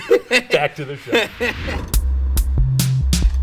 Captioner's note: laughs; upbeat music